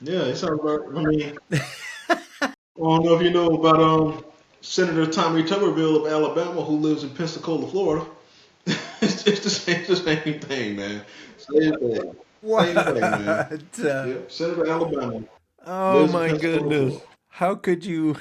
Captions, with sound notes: Yeah, it sounds about right. (Laughing) Well, I don't know if you know about Senator Tommy Tummerville of Alabama who lives in Pensacola, Florida. It's just the same thing, man. Same thing. Why the thing, man? Senator Alabama. Oh my goodness. How could you?